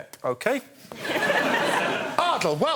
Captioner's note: audience laughing